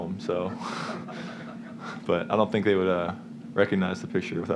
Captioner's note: chuckles